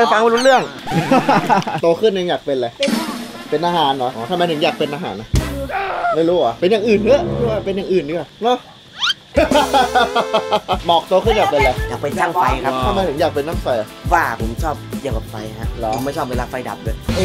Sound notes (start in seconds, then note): 0.0 laughs; 9.3 laughs maniacally